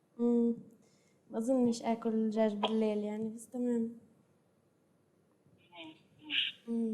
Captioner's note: non-english speech